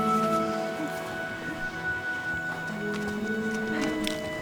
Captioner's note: girls giggling